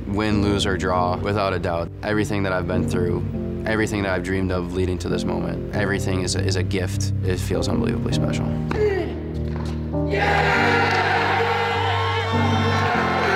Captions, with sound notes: Win, lose, or draw, without a doubt, everything that I've been through, everything that I've dreamed of leading to this moment, everything is a gift. It feels unbelievably special. (cheers)